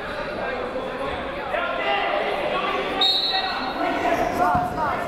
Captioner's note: crowd murmuring